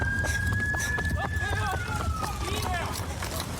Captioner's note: shouting